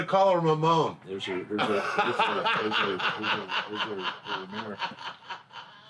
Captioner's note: laughing